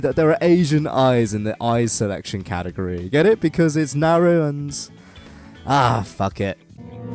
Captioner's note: sigh